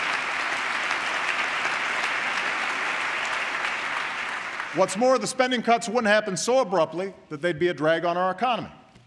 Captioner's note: applause